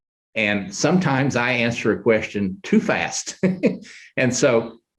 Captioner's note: chuckles